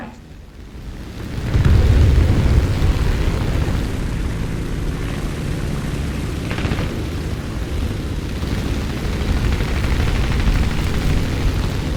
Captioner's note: aircraft Engines ,Gunfire, Flying Sounds